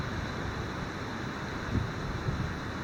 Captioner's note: wind blowing